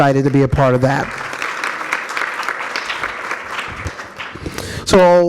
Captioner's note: audience applauds